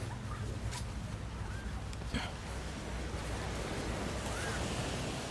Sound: ocean waves

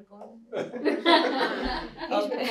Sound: laughter

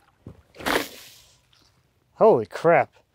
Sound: water splashes

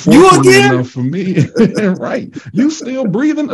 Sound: all laughing

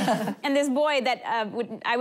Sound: laughing

